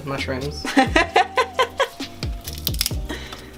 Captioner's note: laughs